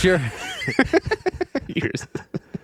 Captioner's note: laughing